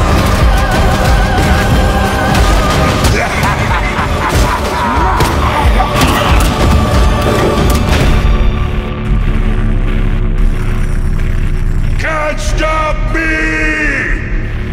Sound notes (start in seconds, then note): 2.9 manic laughter